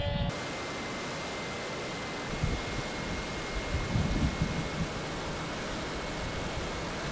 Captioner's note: rear camera taped on the fuselage makes an horrible noise